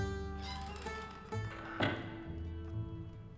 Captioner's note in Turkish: Kapı kapanma sesi